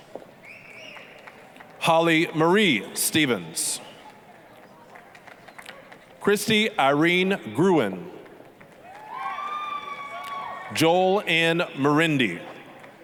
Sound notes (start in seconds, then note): 0.8 applause; 4.0 applause; 8.8 applause, cheering